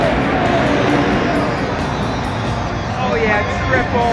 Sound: dirt bike engine revs

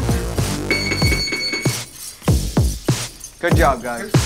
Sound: electric signal beeps

